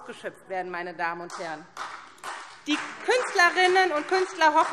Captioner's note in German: Beifall SPD und DIE LINKE